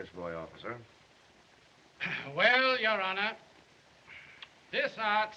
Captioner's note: clears Throat